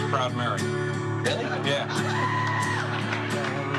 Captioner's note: laughter